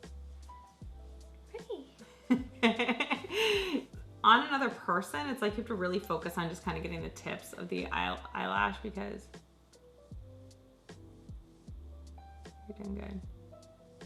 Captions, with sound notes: - Pretty! (laughs) - On another person, it's like you have to really focus, on just kind of getting the tips, of the eyelash because... (soft electronic music)